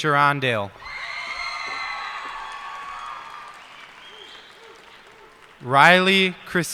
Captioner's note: cheers and applause